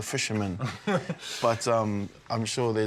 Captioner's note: laughs